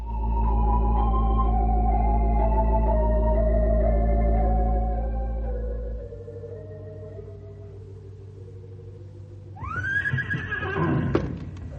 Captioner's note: sirens